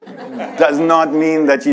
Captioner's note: audience laughs